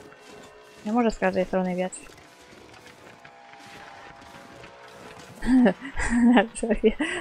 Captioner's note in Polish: Aplauz